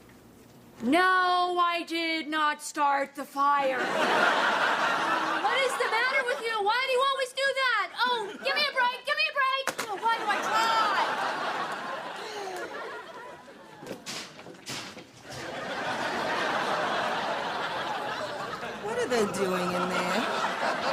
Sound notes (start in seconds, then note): 12.1 sighs; 13.8 thumping